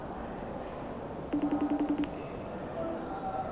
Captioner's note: phone ringing